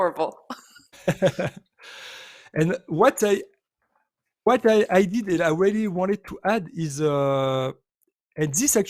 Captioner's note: chuckles